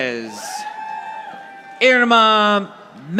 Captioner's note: audience applauding